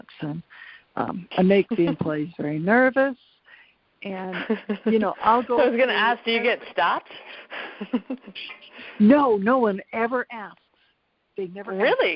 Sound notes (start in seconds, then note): 7.0 laughs